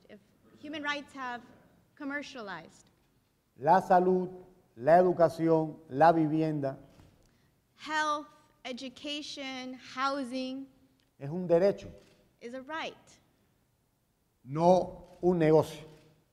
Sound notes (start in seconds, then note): 3.5 speaking in Spanish; 12.9 speaking in Spanish